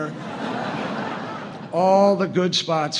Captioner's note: laughter